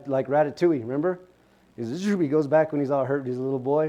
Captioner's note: zipping sound